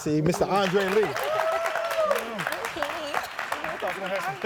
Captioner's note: audience clapping and cheering